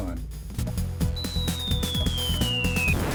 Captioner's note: whistling falling rocket